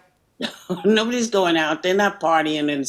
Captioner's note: chuckles